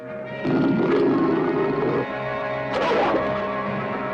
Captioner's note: dog growling